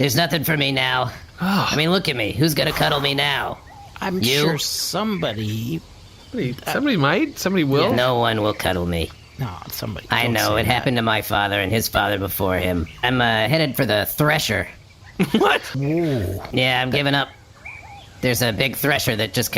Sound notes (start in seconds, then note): 15.2 laughing